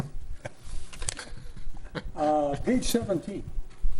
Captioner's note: laughs